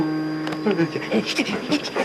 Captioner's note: makes Beligerent Sounds